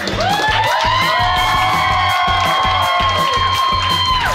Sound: patrons cheering

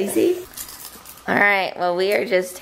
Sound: crunching

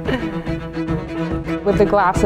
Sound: laughs

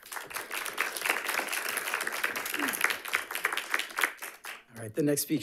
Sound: audience applauding

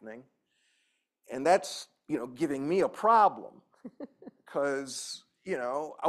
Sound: laughter

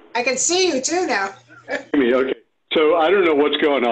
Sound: laughter

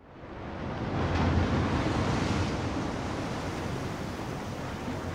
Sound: waves crashing

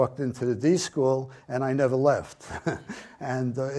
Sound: chuckles

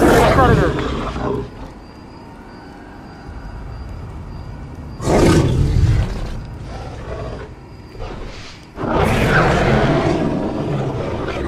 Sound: growl Sound

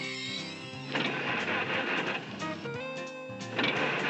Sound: backfiring and wheezing; engine sputtering

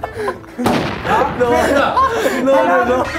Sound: crying

